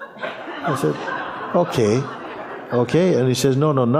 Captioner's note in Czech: smích